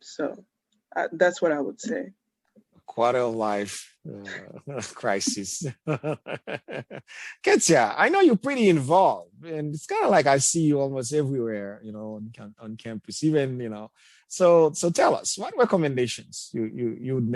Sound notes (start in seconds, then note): 6.0 chuckles